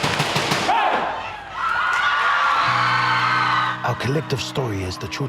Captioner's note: audience applauds